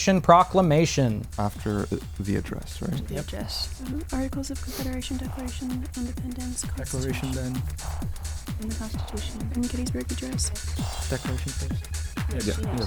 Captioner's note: wispering